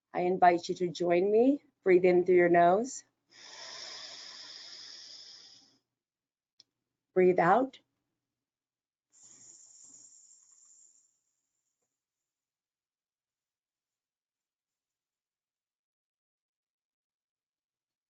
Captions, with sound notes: I invite you to join me, breath in through your nose. (breathing heavily) Breathe out.